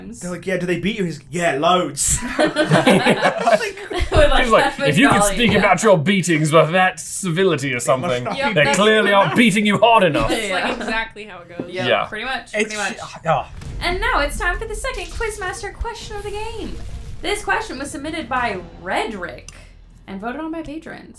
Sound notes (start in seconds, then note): 2.1 laughter